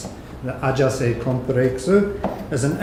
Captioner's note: pronouncing in a Japanese manner